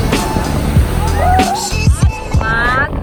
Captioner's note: sound of waves